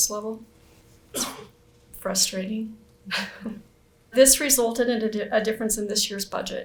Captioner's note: chuckles